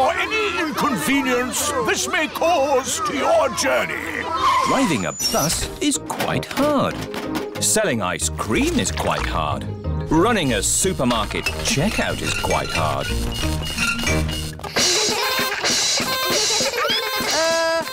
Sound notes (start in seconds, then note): 13.9 items clinking; 15.0 all laugh